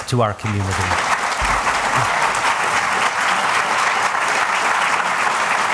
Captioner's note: applause